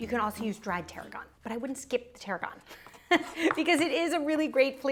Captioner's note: chuckles